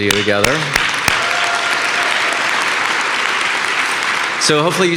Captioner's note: audience cheering and applauding